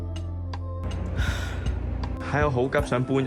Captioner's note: sighs